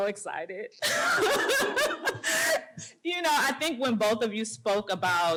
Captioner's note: laughter